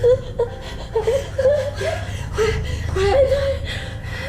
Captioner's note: both sobbing